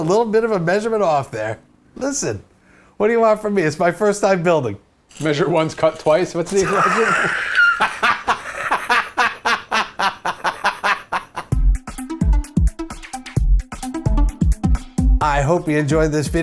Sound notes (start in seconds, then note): 9.5 laughs